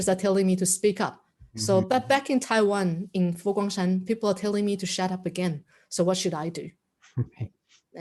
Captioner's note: a chuckle